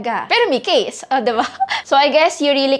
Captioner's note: giggles